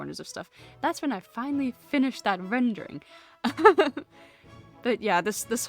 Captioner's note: laughs